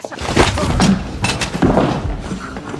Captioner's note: dramatic music playing; Hartley grunts